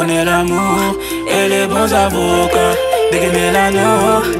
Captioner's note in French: mmh, mmh